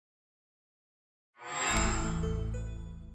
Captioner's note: chime